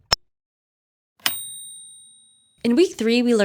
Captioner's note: ding